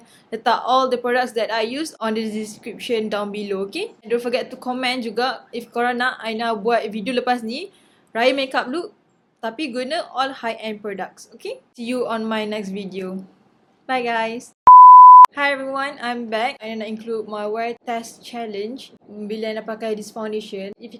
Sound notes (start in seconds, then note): 14.6 beep